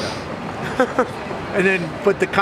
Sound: laughs

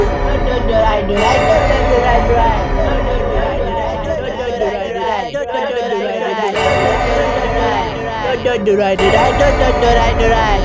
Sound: Mini Dora’s Screaming

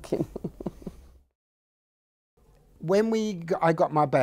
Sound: laughs

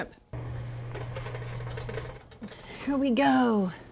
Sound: metal clanking

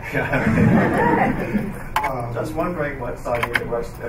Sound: laughing

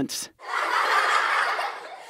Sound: laughter

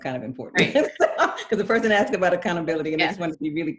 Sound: laughing

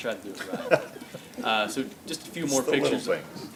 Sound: laughs

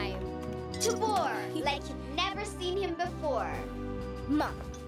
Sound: kids chuckling

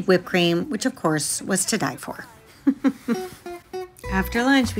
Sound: laughs

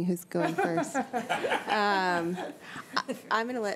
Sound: trustees giggling

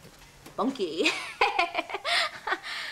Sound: melorra laughs

